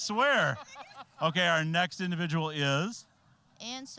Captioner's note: laughing